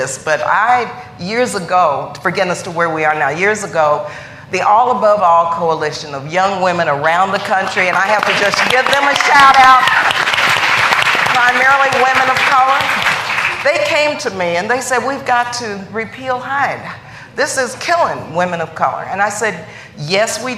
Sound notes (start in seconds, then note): 14.2 applause